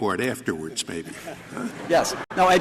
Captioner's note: laughter